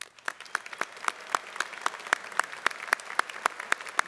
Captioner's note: applause